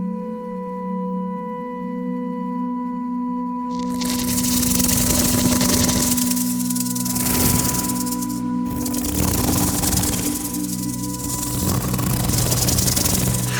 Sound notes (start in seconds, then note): 3.7 snake hisses; 3.7 snake rattles